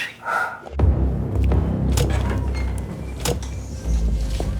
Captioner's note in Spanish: Sonido de la puerta